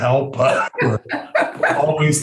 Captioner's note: laughing